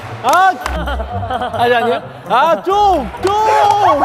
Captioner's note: laughing